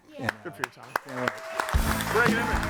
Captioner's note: audience applauding